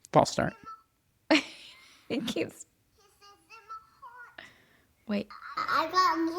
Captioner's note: laughs